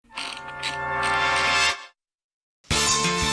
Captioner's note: wheel clicks